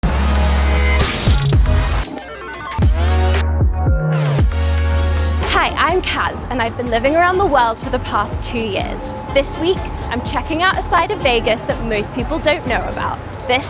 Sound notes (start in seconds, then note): 0.2 upbeat music; 2.5 slot machine whirring